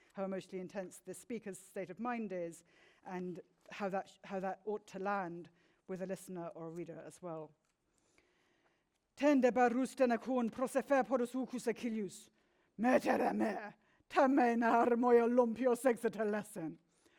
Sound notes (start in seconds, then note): 9.7 speaks in foreign language